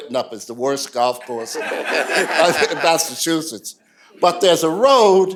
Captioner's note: laughter